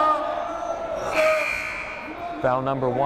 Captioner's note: timer buzzes